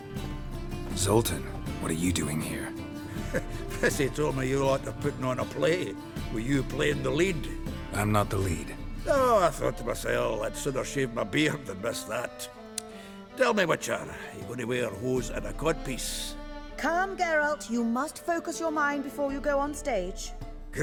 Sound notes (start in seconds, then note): 3.0 chuckle; 12.7 smacks lips